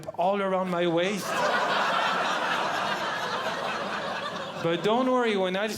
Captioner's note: audience Laughing